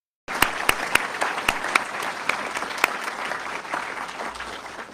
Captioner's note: audience clapping